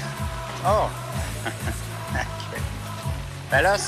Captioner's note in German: lacht